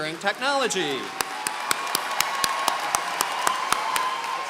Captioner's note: applause